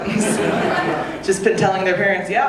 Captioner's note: audience laughing